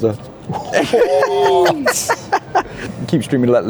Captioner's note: laughing